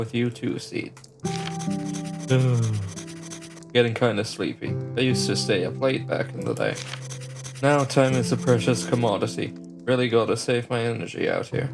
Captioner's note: yawn